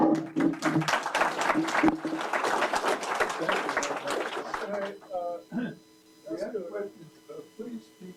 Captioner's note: applause